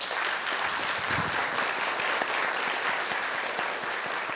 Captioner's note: audience applauds